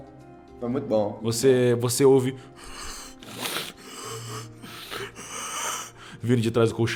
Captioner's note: heavy breathing